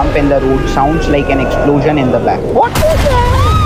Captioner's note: gasps; SFX: Massive clattering crash noise